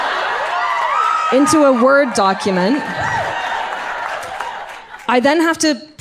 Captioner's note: audience cheers